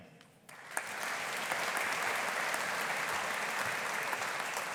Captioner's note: audience applauding